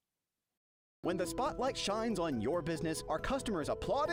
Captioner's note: voiceover